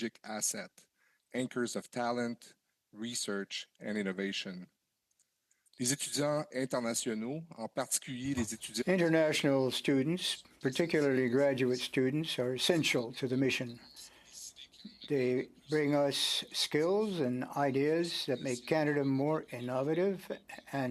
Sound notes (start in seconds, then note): 9.6 speaking French